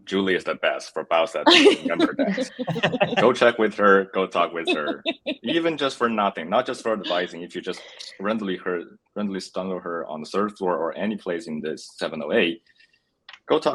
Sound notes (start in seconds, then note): 1.4 laughs